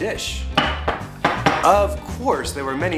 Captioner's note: mortar and pestle clinks